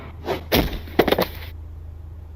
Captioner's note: thump